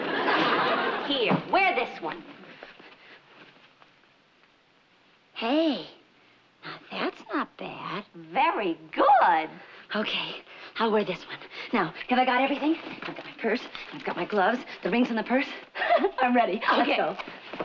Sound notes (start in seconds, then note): 15.7 laughs